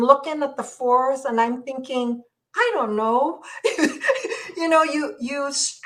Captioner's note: laughs